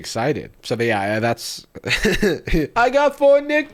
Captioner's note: laughs